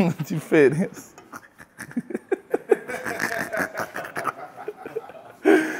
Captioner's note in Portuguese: risadas